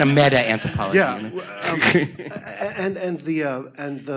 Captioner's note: audience laughs